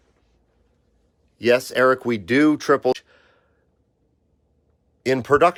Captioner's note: audio cuts out